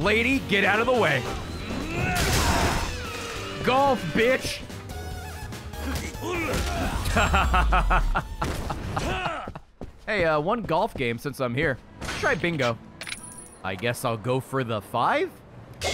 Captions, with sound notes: Lady, get out of the way. Golf, bitch! (laughs) Hey uh, one golf game since I'm here. Let's try Bingo. I guess I'll go for the 5?